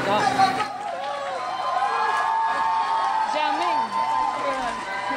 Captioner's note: crowd cheers